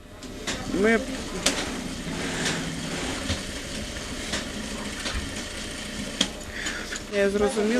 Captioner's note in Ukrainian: Шум швейних машинок